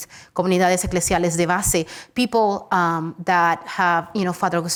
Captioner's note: speaks Spanish